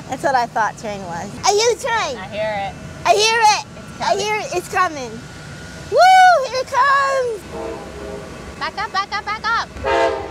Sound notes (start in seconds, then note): 7.5 train whistle blows